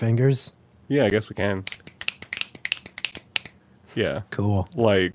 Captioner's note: arhythmic finger snapping